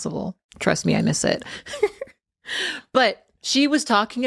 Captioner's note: giggles